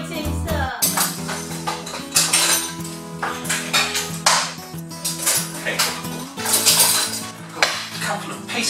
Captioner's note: kitchen utensils clinking